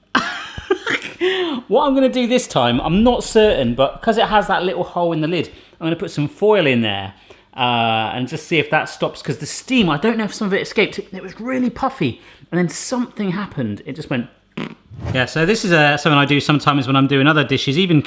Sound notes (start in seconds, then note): 0.4 laughs; 14.6 blows raspberry; 14.8 air whooshing